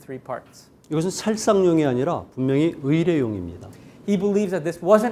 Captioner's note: speaking in Korean